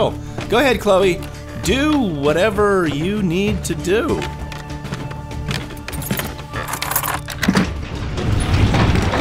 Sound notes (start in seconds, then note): 4.1 footsteps, floorboards creaking; 6.8 elevator whirring